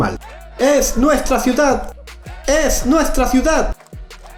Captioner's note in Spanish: gritan